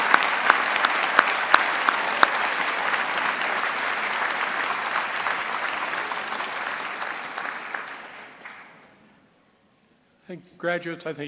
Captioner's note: cheering; applause